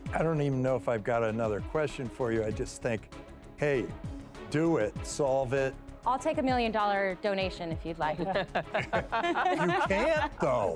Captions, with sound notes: I don't even know if I've got another question for you. I just think, hey, do it, solve it. - I'll take a million dollar donation if you'd like. (laughing) - You can't though.